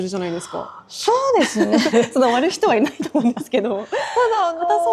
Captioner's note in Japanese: 笑い